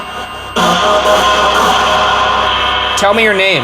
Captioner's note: garbled radio sounds blaring; REM-Pod beeping